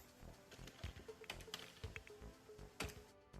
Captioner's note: typing